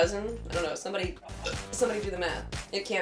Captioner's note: burp